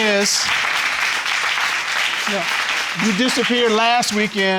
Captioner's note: audience applauding